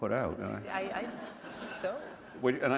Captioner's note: laughter